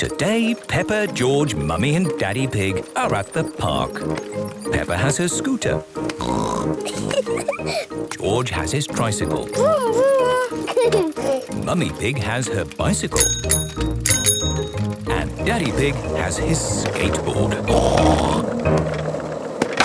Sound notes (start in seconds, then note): 6.1 snorts, giggles; 8.9 giggles; 12.9 bicycle bell dinging; 17.4 snorts